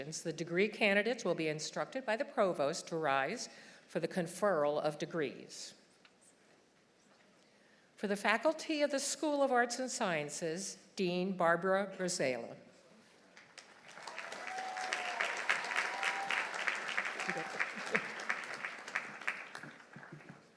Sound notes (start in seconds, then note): 13.3 audience applauding; 13.7 audience cheering; 17.0 laughs